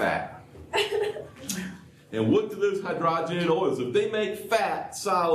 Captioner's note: laughter